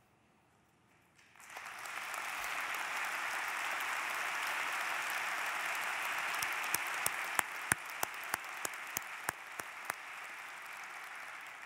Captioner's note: applause